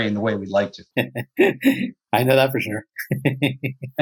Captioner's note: chuckles; laughter